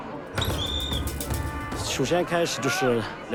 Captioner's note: whistle blows